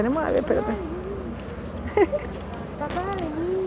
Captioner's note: boy, in spanish